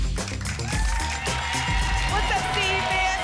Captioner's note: applause and cheering